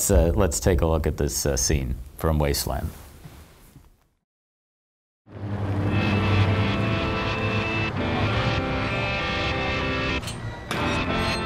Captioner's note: clip in Portugese